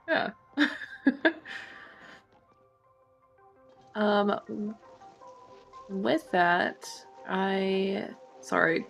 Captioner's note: laughs